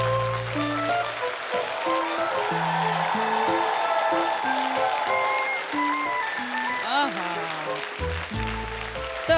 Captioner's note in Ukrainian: оплески